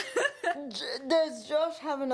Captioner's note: laughing